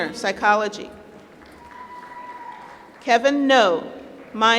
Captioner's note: applause